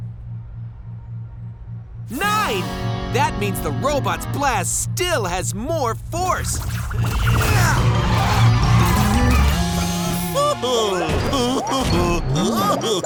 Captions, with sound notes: Nine! That means the robot's blast still has more force. [grunting] [chuckling]